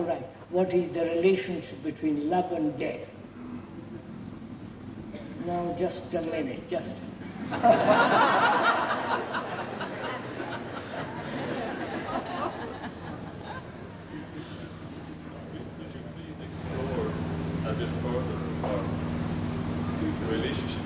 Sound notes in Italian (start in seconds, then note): 11.9 risate